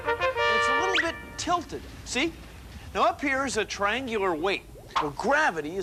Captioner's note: none